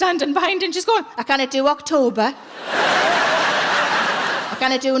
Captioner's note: audience laughing